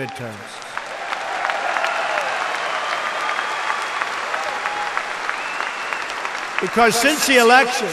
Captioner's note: applause